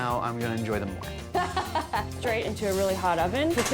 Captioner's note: laughs